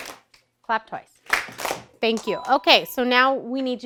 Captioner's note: ding